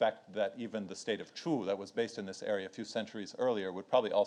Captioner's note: speaks in foreign language